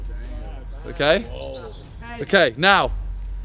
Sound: men groaning

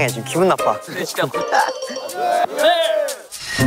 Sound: still laughing

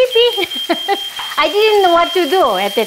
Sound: fire alarm beeping sound

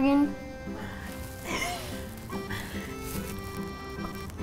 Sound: laughs

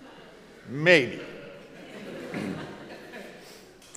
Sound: crowd laughs

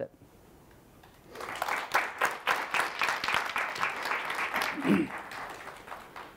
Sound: audience applauds

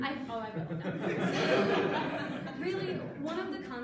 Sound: audience laughing

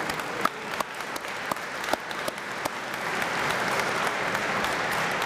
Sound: applause

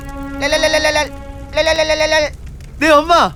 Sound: phone vibration

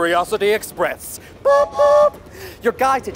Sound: train horn hooting

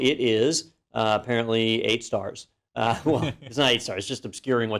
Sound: laugh

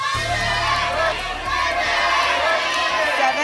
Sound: audience shouting numbers

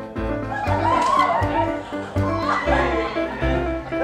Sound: students cheer

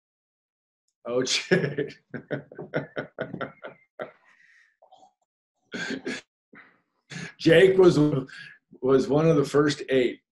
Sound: laughs

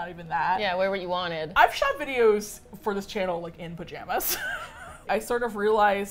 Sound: both laugh

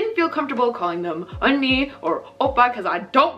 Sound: speaking Korean

